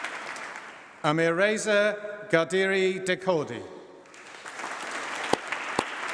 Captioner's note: applause